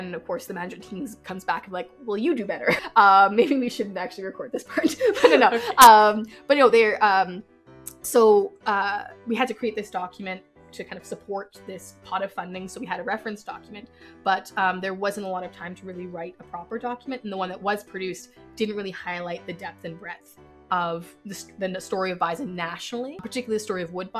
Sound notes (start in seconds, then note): 4.9 laughs